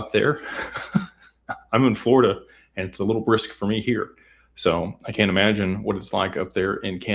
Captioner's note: laughter